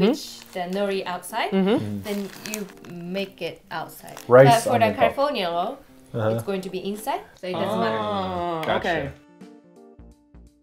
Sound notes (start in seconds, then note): none